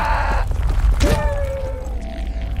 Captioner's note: screaming; muffled screaming